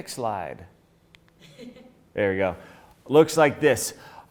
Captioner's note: woman chuckles